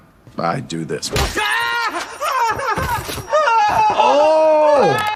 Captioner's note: person screams